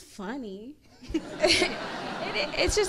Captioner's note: crowd laughs